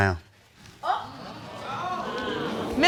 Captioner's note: audience exclaims